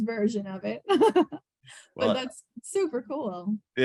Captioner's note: laughs